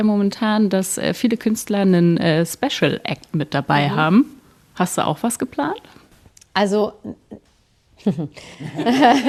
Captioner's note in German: gelächter